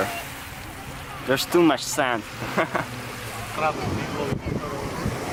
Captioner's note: quiet laugh